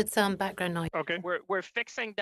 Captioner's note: speaking French